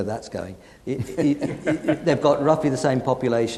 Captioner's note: audience laughing